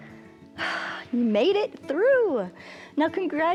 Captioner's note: exhales